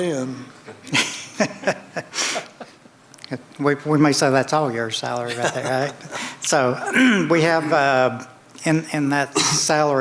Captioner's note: laughter